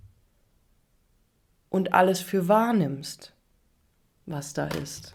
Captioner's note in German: none